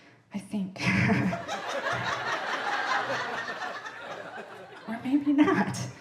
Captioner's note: audience laughing